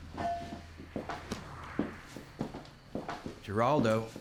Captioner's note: footsteps, doorbell clangs; thuds against shoulder